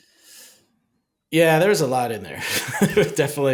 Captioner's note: laughing